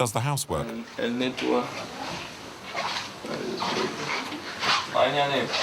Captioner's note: French spoken audio